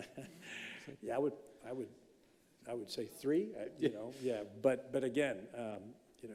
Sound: chuckling

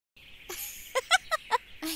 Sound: Jewel laughing

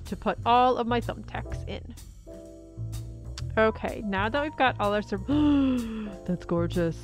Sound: gasp

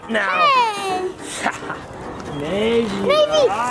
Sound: laughs

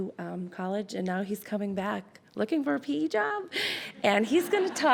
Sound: laughs

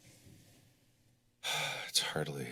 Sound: sighs

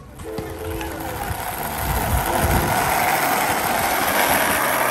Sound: skateboard rattles

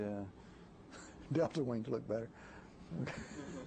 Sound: laughter

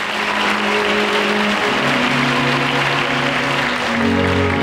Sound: audience applause

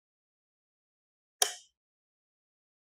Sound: lightswitch clicks

